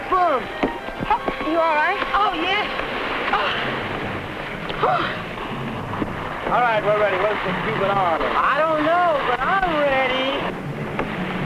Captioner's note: speaking spanish